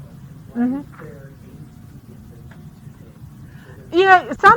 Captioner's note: speaks faintly